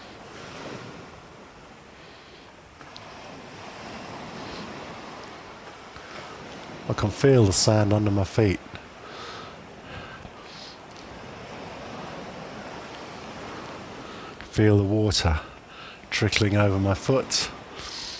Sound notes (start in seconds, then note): 0.0 breathing; 8.9 breathing